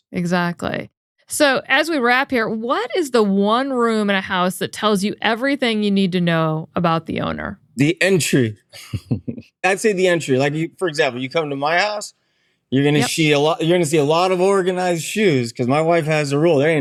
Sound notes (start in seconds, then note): 8.7 chuckles